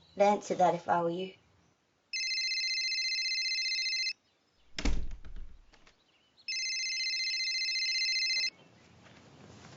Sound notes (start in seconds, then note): 2.1 phone rings